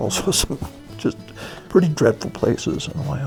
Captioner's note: voiceover